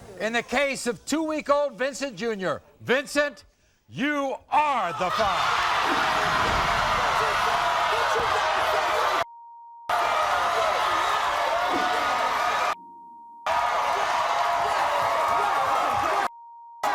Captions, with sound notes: - In the case of two week old Vincent Junior, Vincent, you are the father. (audience screams) - What you got to say, (beep) (audience screaming) (beep) - What? What? What?